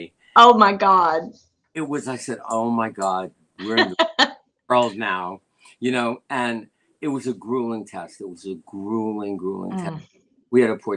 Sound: laughter

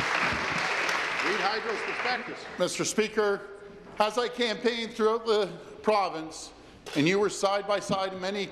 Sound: applause

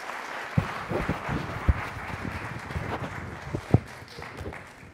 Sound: audience applauding

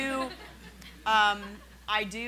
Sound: laughing

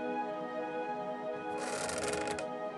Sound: creak

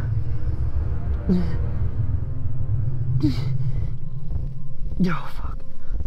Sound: muffled groans

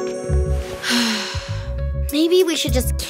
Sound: deep sigh

